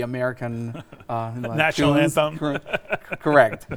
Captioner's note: laughs